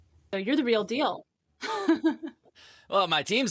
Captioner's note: laughs